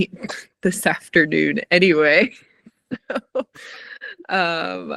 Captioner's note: chuckling